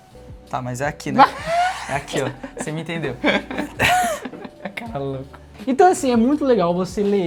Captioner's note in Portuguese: risadas